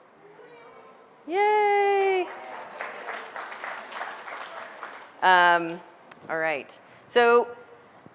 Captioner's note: background audience applause sounds